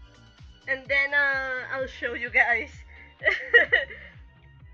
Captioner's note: laugh